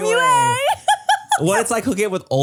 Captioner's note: laughs